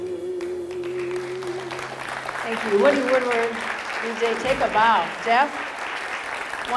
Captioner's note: audience applause